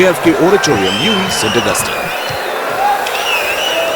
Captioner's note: wild applause and cheering for 22 seconds